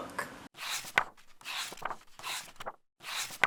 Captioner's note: pages turning